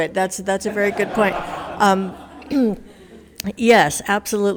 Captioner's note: attendees laughs